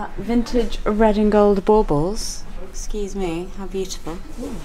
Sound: none

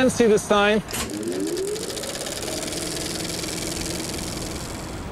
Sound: film reel spinning

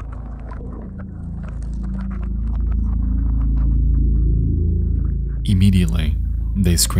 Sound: water sloshing; high intensity music

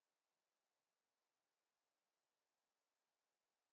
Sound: none

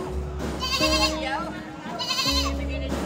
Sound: goats bleating

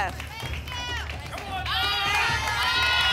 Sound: cheering; audience shouting letters

